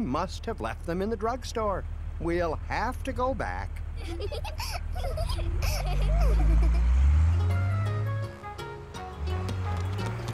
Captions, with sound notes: I left them in the drug store. We'll have to go back. ( giggles )